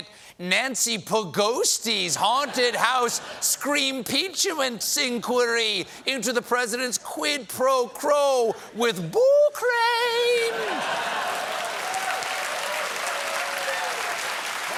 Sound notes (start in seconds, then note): 10.7 applause